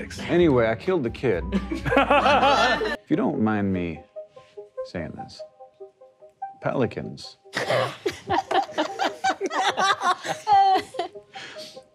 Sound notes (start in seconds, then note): 1.5 players laughing; 7.6 players laughing